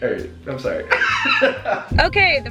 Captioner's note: jazzy music; laughing